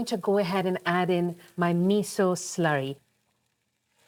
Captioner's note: sizzling